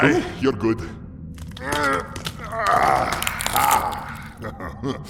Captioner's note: Acoleyet stretching his arms, bone cracking sounds